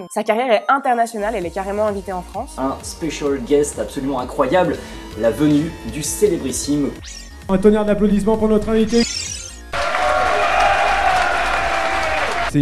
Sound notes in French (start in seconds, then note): 7.0 bip; 9.7 foule qui acclame